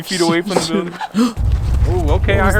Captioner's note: all gasp; bang